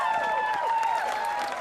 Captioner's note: continued cheering